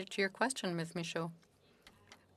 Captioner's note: speaking FRENCH